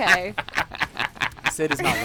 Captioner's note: laughter